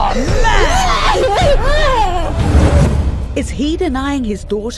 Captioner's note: crying